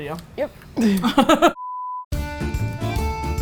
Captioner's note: both laugh; upbeat folk music